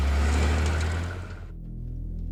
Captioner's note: vehicle rumbling